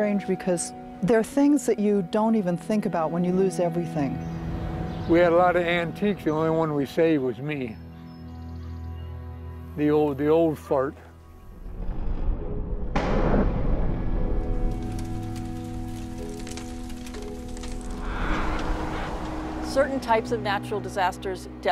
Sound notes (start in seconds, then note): 12.3 thunderclap; 14.3 fire crackling; 17.8 wind rushing